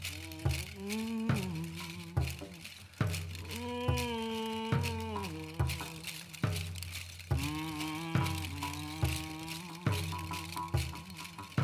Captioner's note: humming